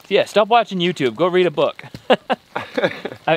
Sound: laughs

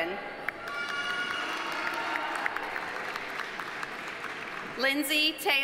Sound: audience applauding; audience cheering

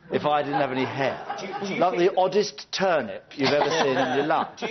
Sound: audience laughs

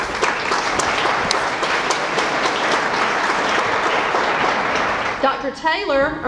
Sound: applause

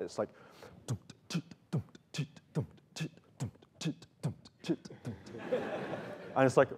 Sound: beat boxing

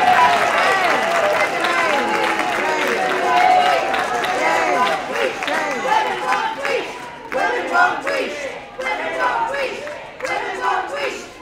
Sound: crowd chants “SHAME” and “Women won’t wheesht”

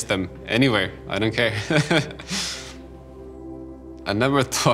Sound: laughs

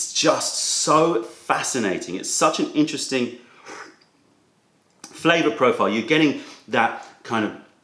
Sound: sips tea

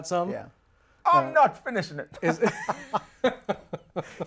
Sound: laughs

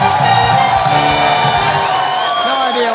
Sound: cheering

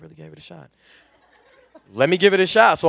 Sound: laughter

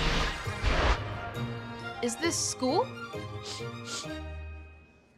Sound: sniffing

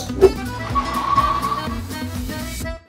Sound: assistant whooshing and skidding; fast mischievous music

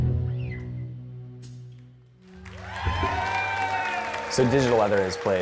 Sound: applause

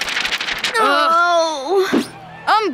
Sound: groaning

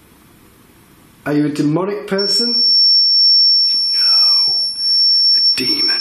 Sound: loud beeping

